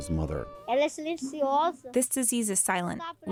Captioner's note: through translator